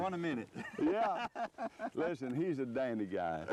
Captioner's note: laughter